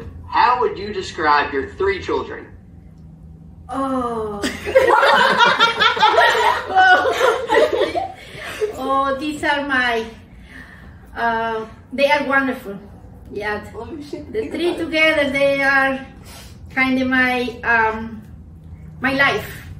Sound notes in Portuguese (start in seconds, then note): 4.4 risadas altas